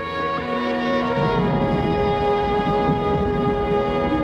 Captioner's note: thunder rumbles